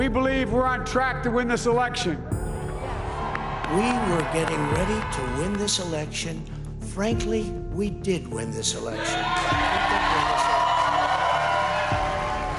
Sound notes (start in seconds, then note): 2.6 cheers and Applause; 12.4 cheers and Applause